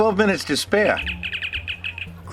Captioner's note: Communicator chirps